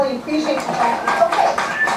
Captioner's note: applause